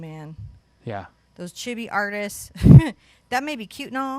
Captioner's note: chuckles